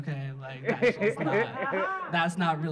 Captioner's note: audience laughing